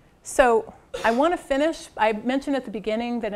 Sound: cough

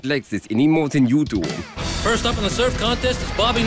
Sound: austrian accent

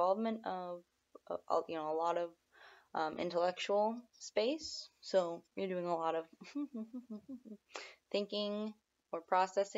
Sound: hum

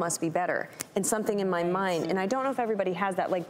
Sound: snaps

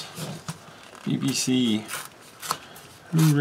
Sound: tearing sounds

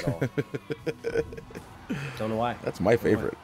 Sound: laugh

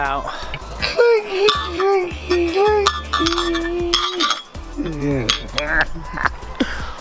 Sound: moaning; clicking of glass; laughs

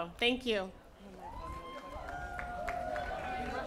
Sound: cheering

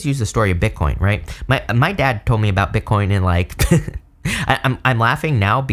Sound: laughs

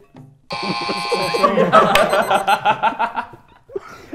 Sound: laughs

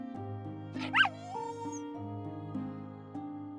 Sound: whines

